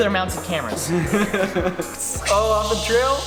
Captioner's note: group chuckling